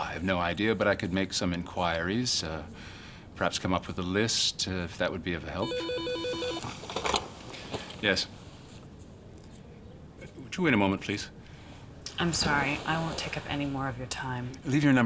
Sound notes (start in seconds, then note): 5.6 phone ringing